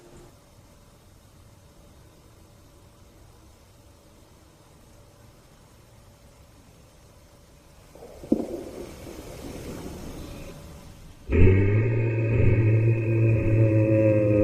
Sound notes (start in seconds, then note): 8.2 gunshot; 11.3 yeti call